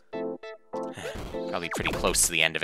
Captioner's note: sigh